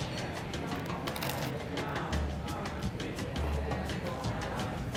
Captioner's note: crunching